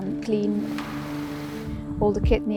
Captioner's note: pressure washer hiss